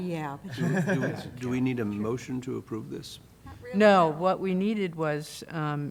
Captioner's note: laughter